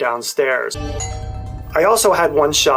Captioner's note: doorbell rings